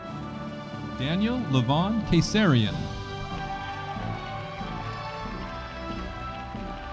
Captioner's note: audience applauding